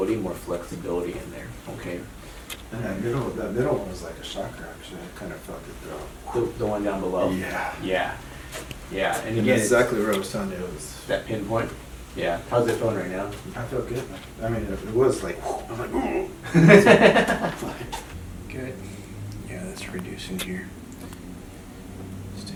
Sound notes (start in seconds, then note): 14.9 imitates another sound; 15.1 imitates sound; 16.6 laughing